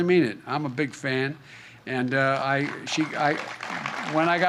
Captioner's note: applause